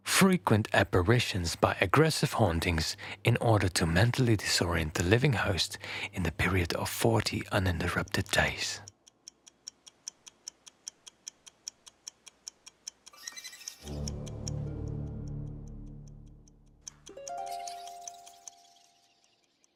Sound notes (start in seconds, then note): 10.3 watch ticking